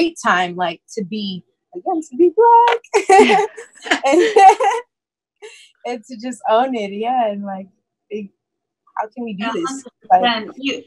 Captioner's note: laughs